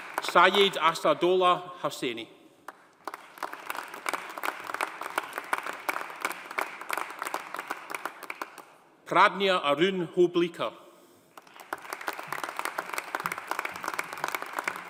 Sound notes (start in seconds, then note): 2.7 audience applauding; 11.3 audience applauding